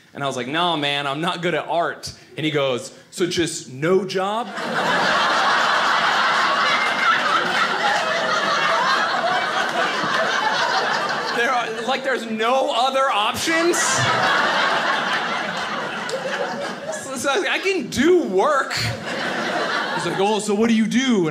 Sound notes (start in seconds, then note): 5.0 audience laughing; 14.8 audience laughing